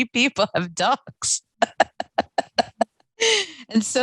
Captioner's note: laughing